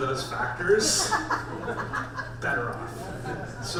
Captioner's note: audience laughs